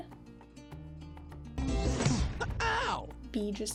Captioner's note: smack